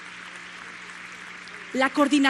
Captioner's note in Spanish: aplausos